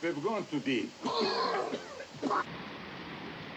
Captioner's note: coughing